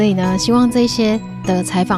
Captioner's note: speaking chinese